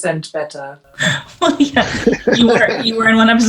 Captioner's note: laughs